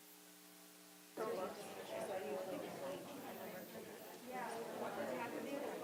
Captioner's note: audience chattering